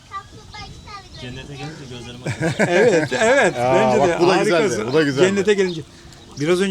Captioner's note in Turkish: kahkaha